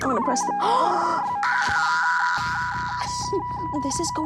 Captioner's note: screams; they gasp